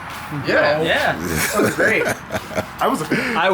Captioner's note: laughs